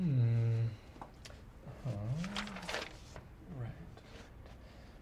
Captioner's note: pages flipping